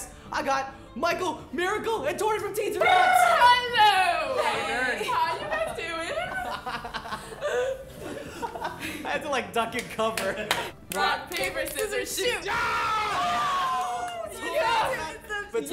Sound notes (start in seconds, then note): 2.9 trilling tongue; 6.8 laughing breathlessly; 12.4 screaming triumphantly; 12.4 others screaming